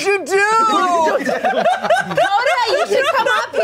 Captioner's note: everyone laughs